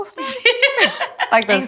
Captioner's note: all laugh